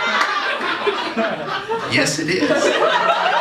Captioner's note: laughter